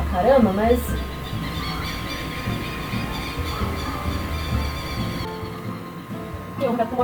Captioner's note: some more LOUD chirping